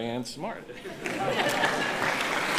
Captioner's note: chuckles; applauding